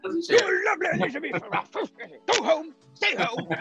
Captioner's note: grumbling in accent